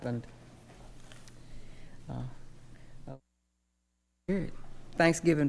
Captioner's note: microphone turns off